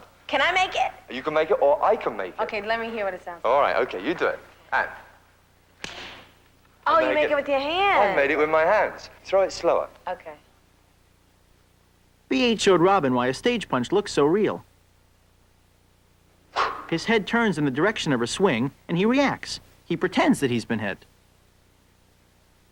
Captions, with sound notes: LET'S MAKE IT. LET ME HEAR WHAT IT SOUNDS LIKE. [SMACK] YOU MAKE IT WITH YOUR HANDS! THROW IT SLOWER. B.H. SHOWED ROBIN WHY A STAGE PUNCH LOOKS SO REAL. HIS HEAD TURNS IN THE DIRECTION OF HER SWING. HE REACTS, PRETENDING HE'S BEEN HIT.